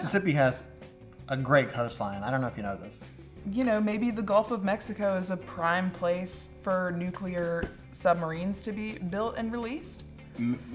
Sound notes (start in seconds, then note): none